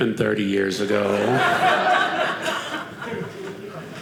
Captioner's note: audience laughing